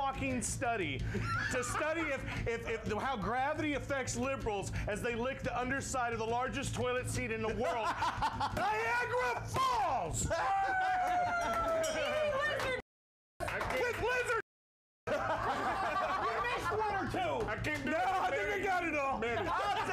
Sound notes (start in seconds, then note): 11.8 bell rings; 12.9 audience cheers